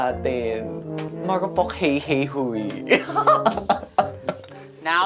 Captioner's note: laughs